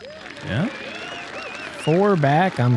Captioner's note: cheering